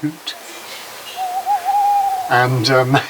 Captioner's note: recording of an owl hoot